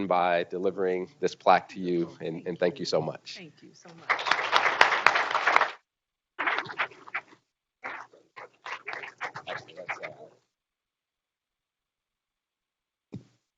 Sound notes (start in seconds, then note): 3.9 group applauding